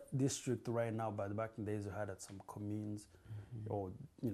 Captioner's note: non-english